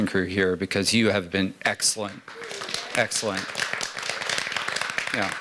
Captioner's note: applause